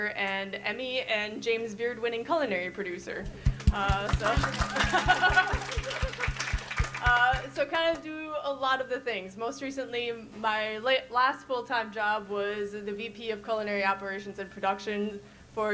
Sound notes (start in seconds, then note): 3.3 audience applauds, faintly speaks; 4.2 laugh